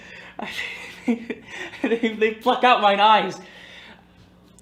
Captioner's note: stammering